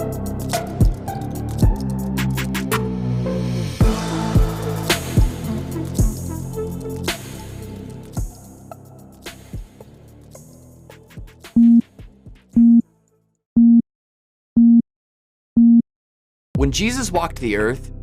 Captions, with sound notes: (electronic beeping) - When Jesus walked the Earth,